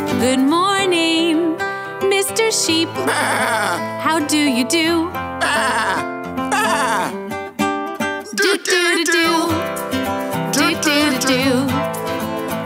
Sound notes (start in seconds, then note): 5.4 sheep noises